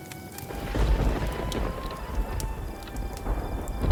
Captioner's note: fire crackling; thunder claps